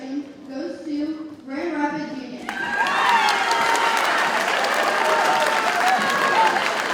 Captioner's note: audience cheers and applauds